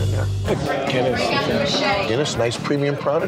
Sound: crowd chattering

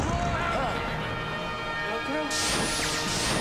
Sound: explosive wooshing

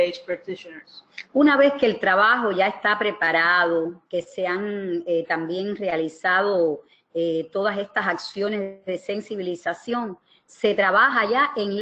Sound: speaking another language

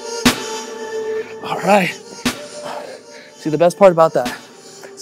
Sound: breathes heavily

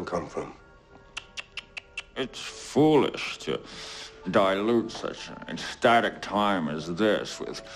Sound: tsks

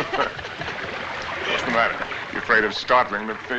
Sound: both Laughing

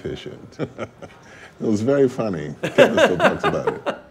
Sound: laughs

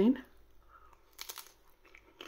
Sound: crunch

